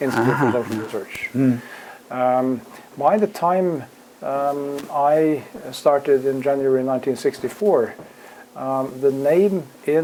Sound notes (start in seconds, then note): 0.0 laugh